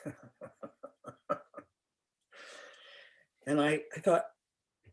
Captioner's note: laughter